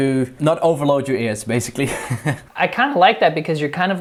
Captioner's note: chuckles